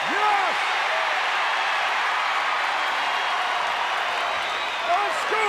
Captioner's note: audience continues cheering